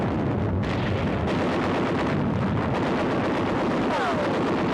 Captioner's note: guns firing